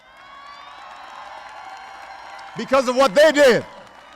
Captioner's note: applause